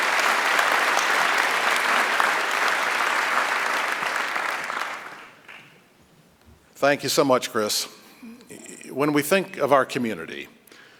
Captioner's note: applause